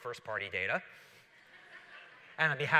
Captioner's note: laughter